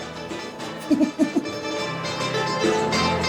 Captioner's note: laughs